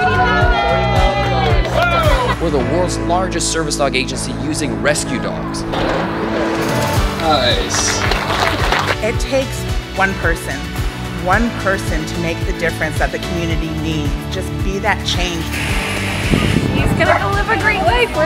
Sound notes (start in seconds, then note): 6.6 crowd Clapping